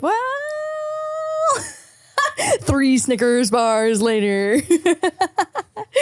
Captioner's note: laughs; laughing